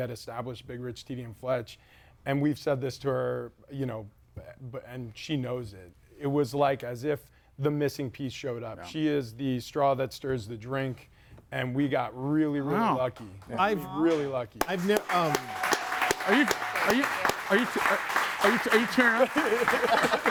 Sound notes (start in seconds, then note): 14.6 audience applauds and cheers; 19.5 group laughs